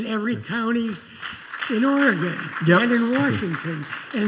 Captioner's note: applause